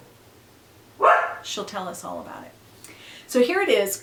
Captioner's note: bark